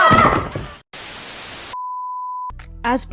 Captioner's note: static